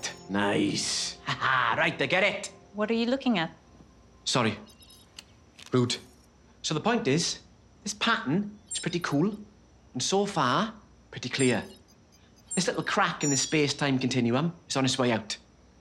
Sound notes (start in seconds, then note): 8.6 electronic pulses